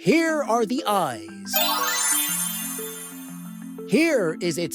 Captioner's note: magic twinkle